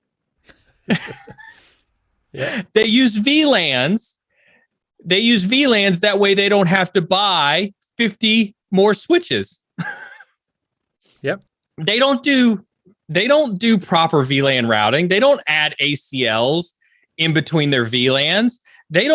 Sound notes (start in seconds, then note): 0.5 laughs; 10.3 laughs